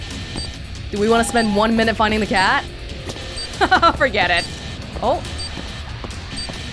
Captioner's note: chuckles